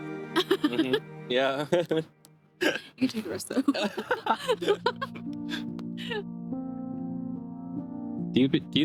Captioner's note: laughs